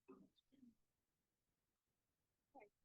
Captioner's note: no audio-break